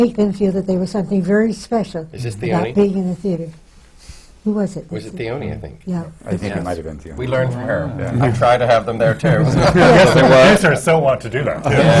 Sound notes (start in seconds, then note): 9.1 laughter